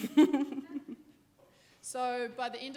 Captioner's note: laughing